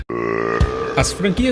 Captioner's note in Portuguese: Arroto